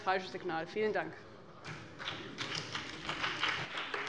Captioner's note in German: Beifall bei dem BÜNDNIS 90/DIE GRÜNEN und der CDU